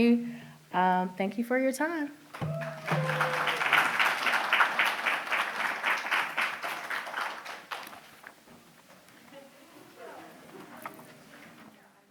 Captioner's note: applause